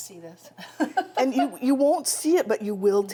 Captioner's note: laughs